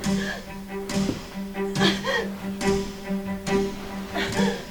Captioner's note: gasping and Choking